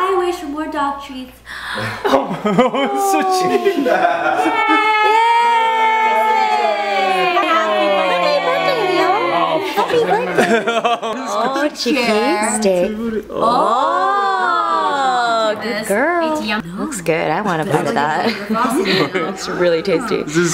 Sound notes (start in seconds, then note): 11.8 cheers